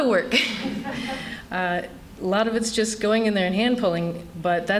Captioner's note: laughter